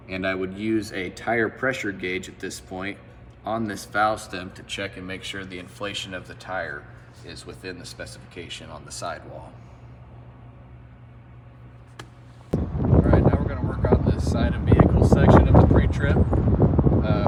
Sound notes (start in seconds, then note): 12.5 wind blowing